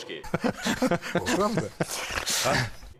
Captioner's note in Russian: звучит смех